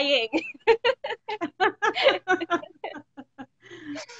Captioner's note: both laughing